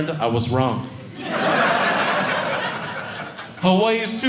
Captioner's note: audience laughing